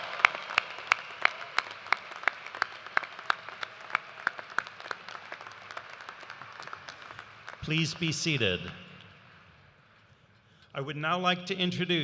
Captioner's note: cheers and applause